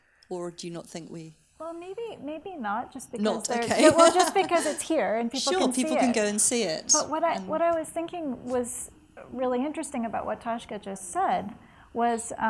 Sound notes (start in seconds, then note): 3.6 laughs